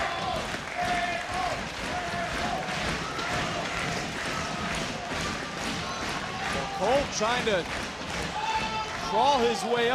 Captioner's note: audience cheering